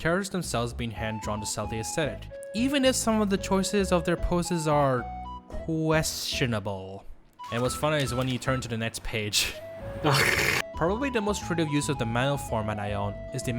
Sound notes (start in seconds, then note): 10.0 sounds of my soul getting sucked from a dementor